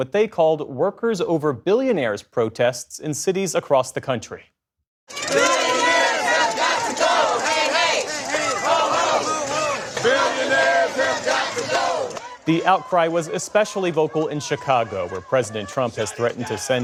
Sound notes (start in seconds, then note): 5.5 chanting